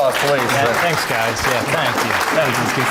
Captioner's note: audience applauding